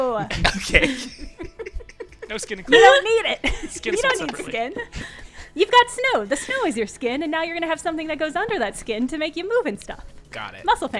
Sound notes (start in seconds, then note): 0.3 laughter